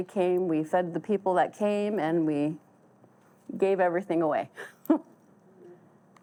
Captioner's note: chuckles